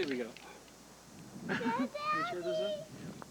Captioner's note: chuckles